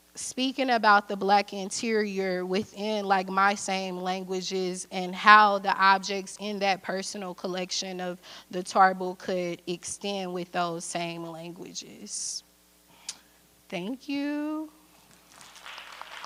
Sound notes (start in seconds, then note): 15.2 audience applause